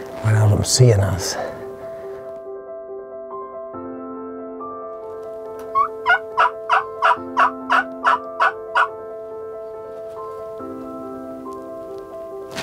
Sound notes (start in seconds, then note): 2.2 peaceful music; 5.6 turkey call squeaking